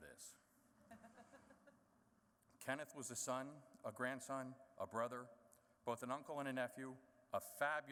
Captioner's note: laughter